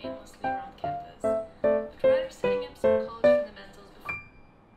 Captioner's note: Vietnamese